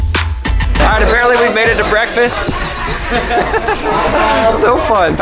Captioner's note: laughs